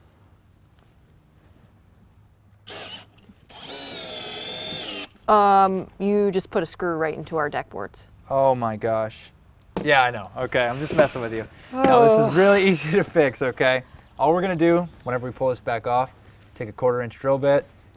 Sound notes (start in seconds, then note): 2.6 drilling; 11.6 sighs